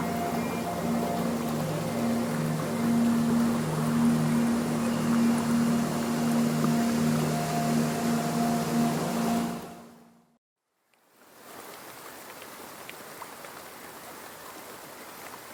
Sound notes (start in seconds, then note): 11.1 rain falling